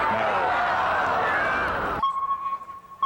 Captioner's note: crowd groaning; sonar beeping